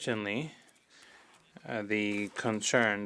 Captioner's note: speaking French